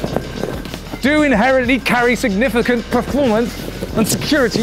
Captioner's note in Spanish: Grita